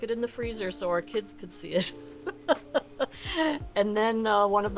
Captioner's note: chuckles